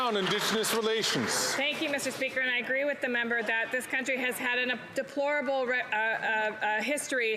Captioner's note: some Applause